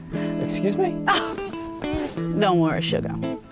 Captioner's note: big laugh